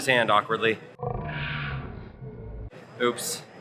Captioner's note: slow motion distorted sound